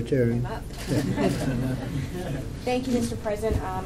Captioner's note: laughter